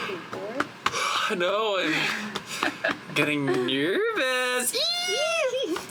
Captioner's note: squeals